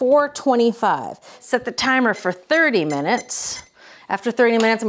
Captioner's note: timer beeping